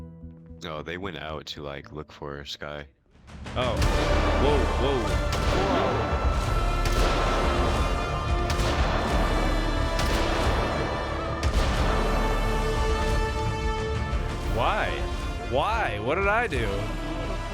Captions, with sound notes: "No they went out to like, look for SKY." "Oh-" (Gunshots) "Wow, wow-" "YO-" (music gets louder) "Why?!" "Why?" x2 "What did I do?"